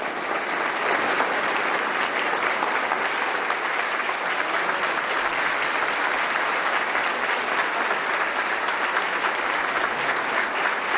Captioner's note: applause